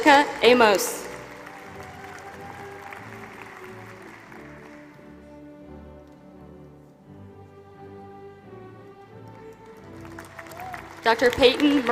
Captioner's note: applause